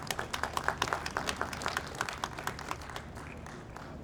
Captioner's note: audience applauds